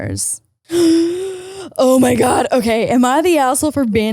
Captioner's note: gasps